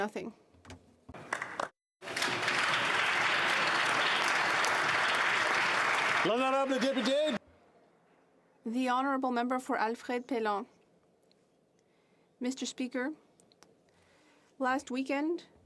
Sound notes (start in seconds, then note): 8.3 applause